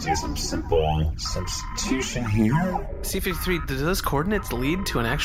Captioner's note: printing sounds